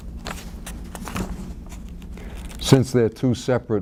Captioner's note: papers ruffling